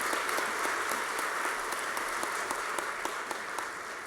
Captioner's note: applause